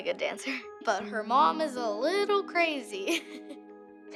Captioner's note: chuckles